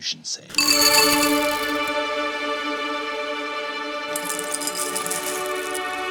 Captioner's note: snacks rattling; soft dramatic music